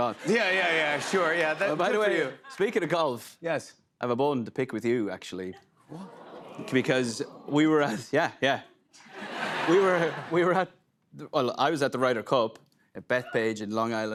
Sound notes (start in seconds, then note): 6.8 audience "Oohs"; 9.0 laughter